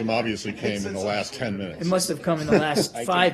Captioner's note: laughter